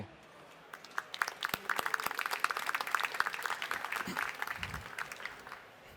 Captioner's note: applause